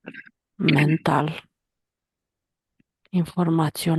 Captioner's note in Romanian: voce dreasă